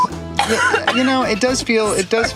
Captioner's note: coughing